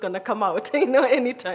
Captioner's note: chuckles